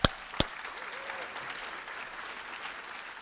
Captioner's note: applause